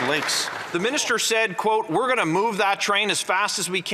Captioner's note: some Applause